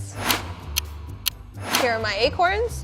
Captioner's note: clock ticks